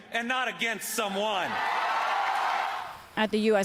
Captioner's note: cheering and applause